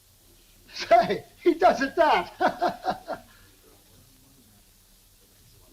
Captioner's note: chuckles